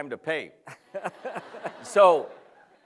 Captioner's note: laughter